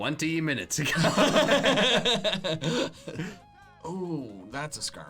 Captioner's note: laughing